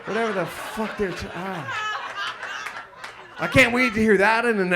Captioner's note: audience laughs